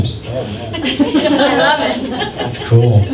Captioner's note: laughter